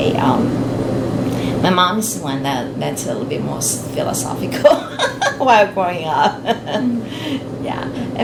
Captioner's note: laughs